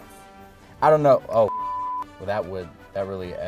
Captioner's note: beep